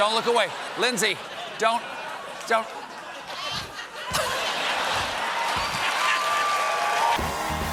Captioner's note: laughter